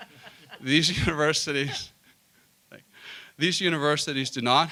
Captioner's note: laughter